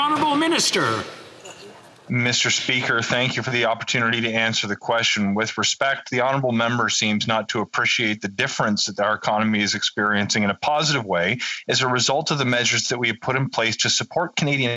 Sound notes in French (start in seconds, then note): 6.9 voix de l'interprète